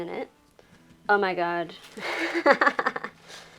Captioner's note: laughs